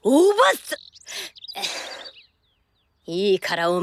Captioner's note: sigh